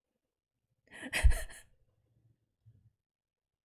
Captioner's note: laughs